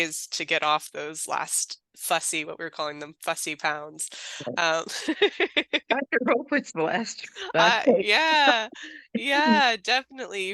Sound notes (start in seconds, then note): 4.3 laughing; 7.2 overlapping chatter